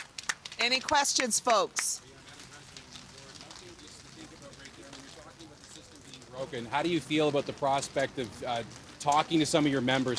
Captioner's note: applause